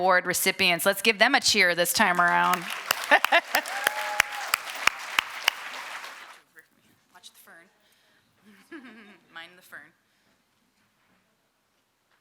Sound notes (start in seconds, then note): 1.8 applause; 2.4 laughter